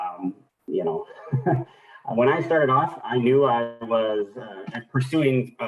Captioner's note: laughs